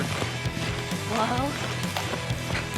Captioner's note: fast hoof beats